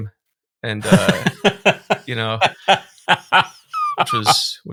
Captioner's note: laughing